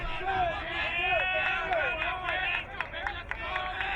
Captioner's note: crowd cheering